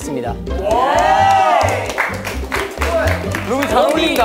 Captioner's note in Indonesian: Tepuk tangan